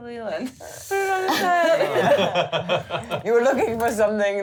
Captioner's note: laughing